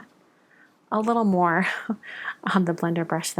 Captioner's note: laughs